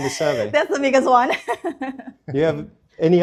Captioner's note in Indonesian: tertawa